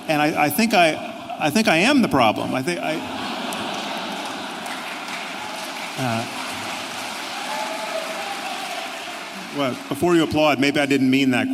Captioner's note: clapping